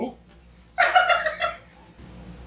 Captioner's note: laughing